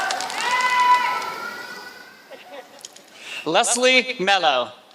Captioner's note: applause